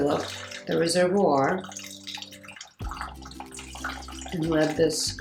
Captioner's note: water trickling